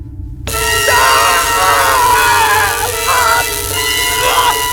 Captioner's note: screams